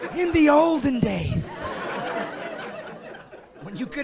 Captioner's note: laughing